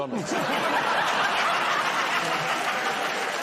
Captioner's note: laughter